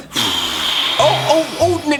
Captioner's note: exhaling loudly